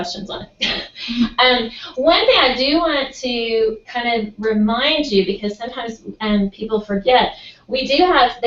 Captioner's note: laugh